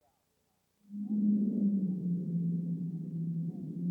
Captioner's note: wind howling